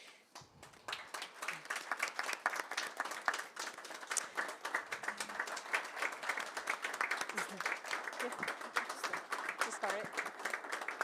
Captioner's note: applause